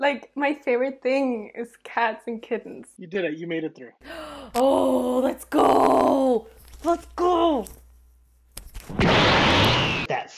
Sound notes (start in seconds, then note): 4.0 gasps; 8.8 aura crackles